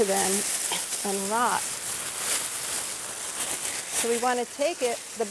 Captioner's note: cellophane crinkling